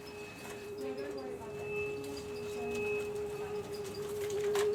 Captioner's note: chattering